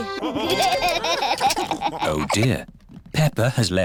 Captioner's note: laughter